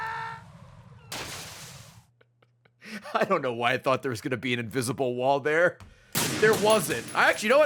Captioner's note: laughs